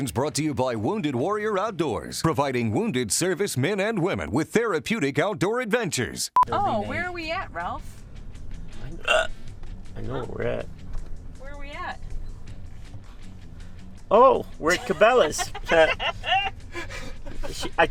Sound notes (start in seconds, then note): 8.9 hiccup; 14.6 laughing